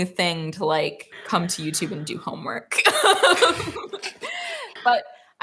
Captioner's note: laughs